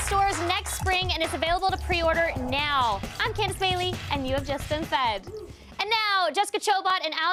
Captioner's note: applause